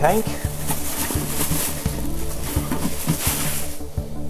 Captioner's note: plastic rattling